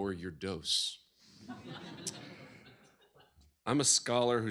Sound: laughter

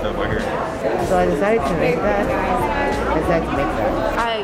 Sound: students chattering

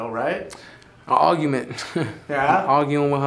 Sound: laughs

